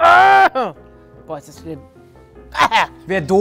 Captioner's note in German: Angeekelte Laute